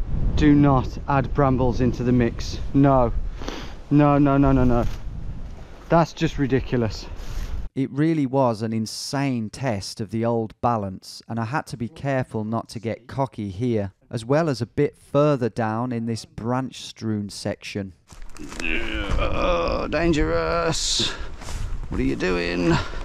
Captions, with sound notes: Do not add brambles into the mix. No, no, no, no, no, no. That's just ridiculous. - [Voiceover] It really was an insane test of the old balance, and I had to be careful not to get cocky here, as well as a bit further down in this branch strewn section. - Oh, dangerous. What are you doing?